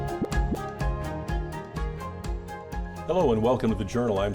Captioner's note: graphics pop